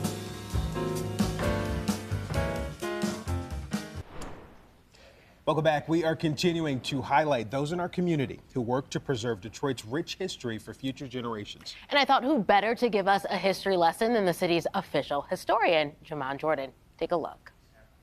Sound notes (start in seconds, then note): 0.0 upbeat jazz music; 3.9 logo swooshes